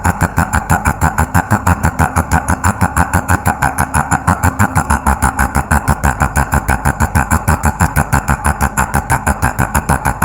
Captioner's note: laugh